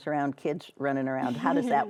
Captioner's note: laughing